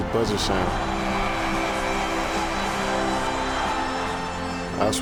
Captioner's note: triumphant orchestral music; buzzer sounding